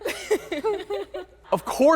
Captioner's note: laughing